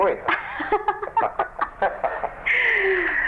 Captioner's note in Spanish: risas